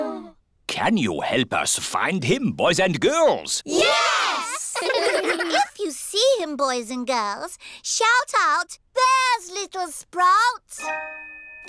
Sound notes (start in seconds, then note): 4.4 giggling